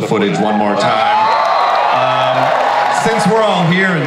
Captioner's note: audience cheers and applauds